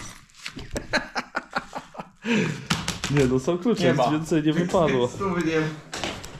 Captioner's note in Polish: śmiech